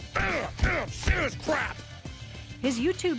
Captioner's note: grunting